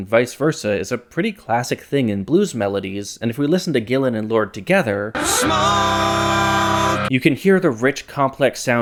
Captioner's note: bang